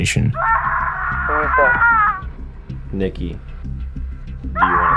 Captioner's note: screaming